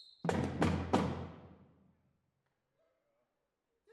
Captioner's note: whistle